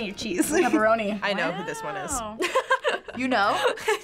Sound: laughs

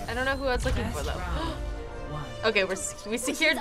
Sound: gasps

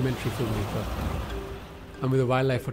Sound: car tires driving over mud

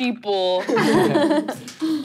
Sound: laughing

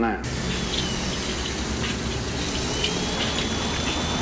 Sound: engine roaring

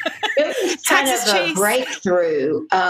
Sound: laughter

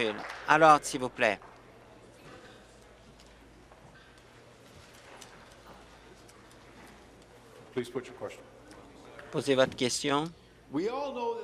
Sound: applause

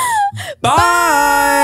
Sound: laughing

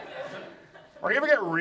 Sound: audience laughs

